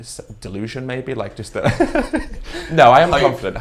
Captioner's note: chuckles